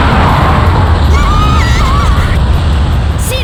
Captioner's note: panicked cries